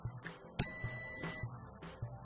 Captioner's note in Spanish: sonido: piiiiii